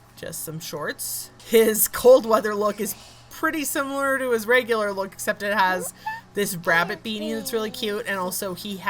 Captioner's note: laughing